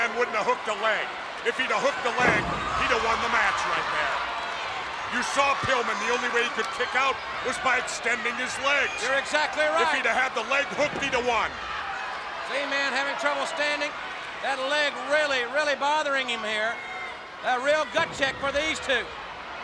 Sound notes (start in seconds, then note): 5.2 body thudding; 16.8 body thudding